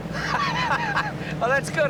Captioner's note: laughs